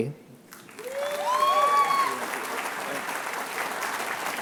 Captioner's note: applause